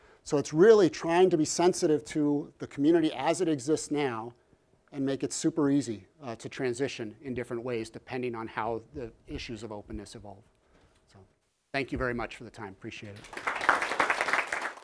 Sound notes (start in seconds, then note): 13.1 applause